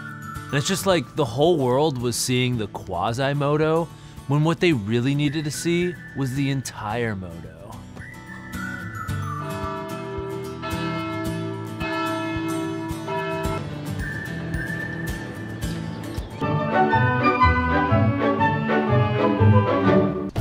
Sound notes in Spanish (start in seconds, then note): 9.0 Campana sonando